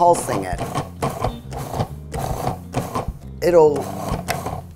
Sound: processor grinding

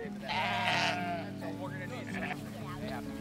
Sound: sheep bleating; people chattering

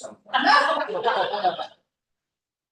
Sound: laughter

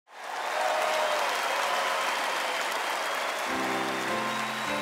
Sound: audience applause

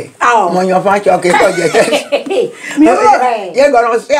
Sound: laughs

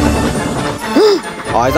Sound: gasp!

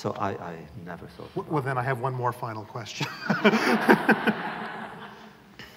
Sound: laughter

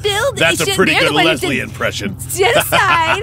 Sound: laughs

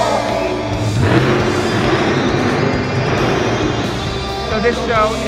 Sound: truck engine revs

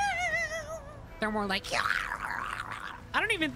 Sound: Dying Pikmin Noise; gory Death Sound

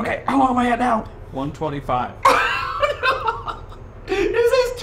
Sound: laughing

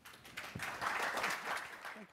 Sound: audience clapping

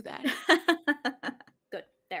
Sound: laughs

